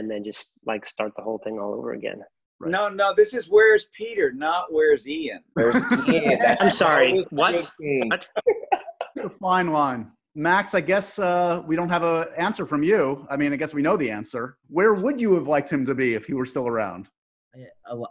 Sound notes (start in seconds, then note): 5.5 laughing